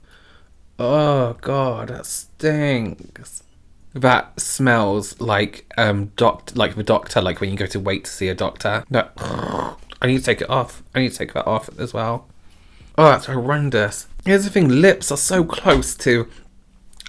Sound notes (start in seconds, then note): 8.9 groaning